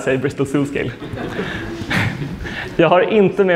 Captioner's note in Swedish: skratt